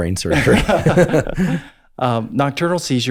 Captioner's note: Andrew laughs; laughs